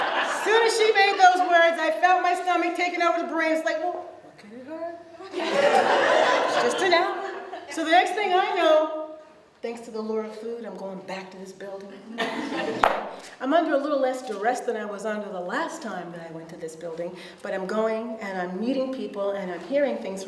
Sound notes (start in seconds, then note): 0.0 audience laughs; 5.2 audience laughs; 12.2 audience laughs